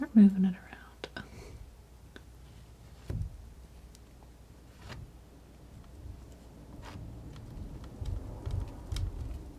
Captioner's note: scratching